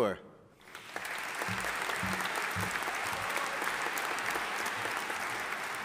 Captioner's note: audience applauding